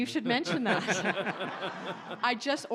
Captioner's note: audience laughs